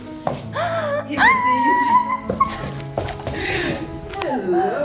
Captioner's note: exclaims